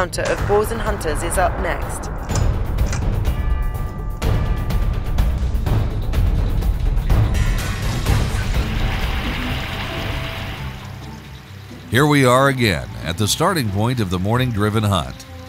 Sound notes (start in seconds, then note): 3.1 dynamic music; 9.1 soft music; 9.1 stream burbling